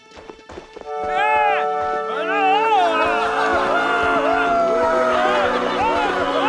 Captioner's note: celebratory yelling